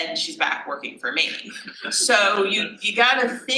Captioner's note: laughs